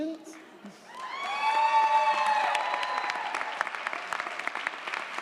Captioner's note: audience applauds & cheers